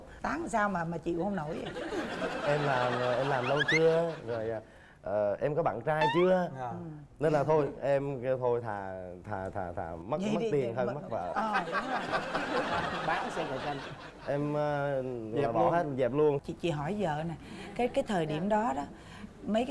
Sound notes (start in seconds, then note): 2.8 laughing; 11.8 laughing